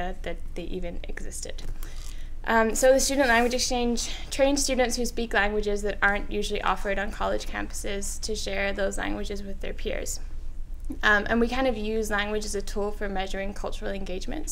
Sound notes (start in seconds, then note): none